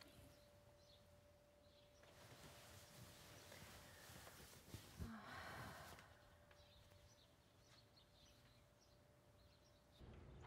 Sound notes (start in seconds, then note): 0.8 birdsong